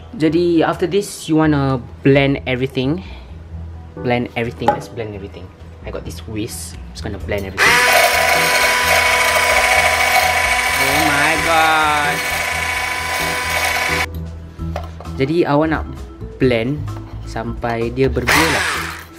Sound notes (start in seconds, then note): 7.6 whisk sounds